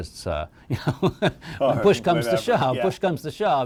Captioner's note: laughs